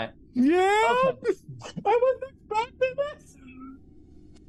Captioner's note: laughs